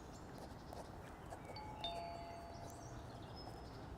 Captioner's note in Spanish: suena el timbre